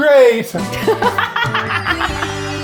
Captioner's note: upbeat music; laughing